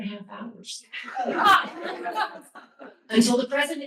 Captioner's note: laughter